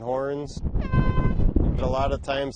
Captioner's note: horn honks